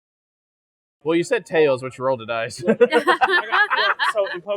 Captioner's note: general amusement